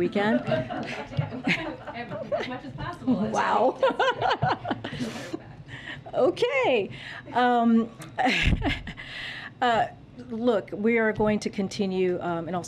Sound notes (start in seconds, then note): 0.2 laughter; 7.0 laughs